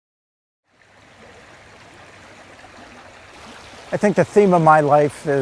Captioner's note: brook babbling